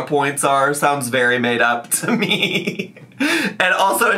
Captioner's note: laughs